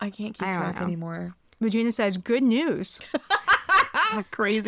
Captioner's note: laughs